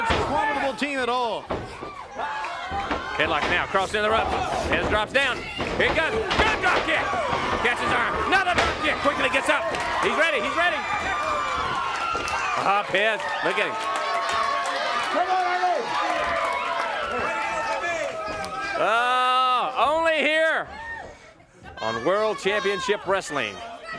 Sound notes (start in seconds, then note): 19.3 crowd cheering